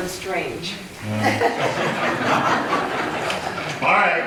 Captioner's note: laughter